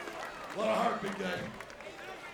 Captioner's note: applause